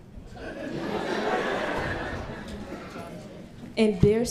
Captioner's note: all laughing